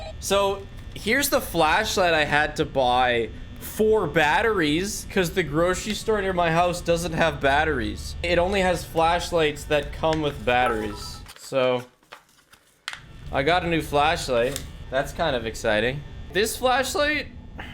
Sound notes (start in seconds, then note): none